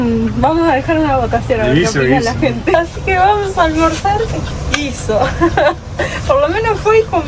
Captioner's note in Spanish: risas